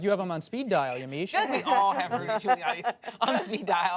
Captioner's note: laughter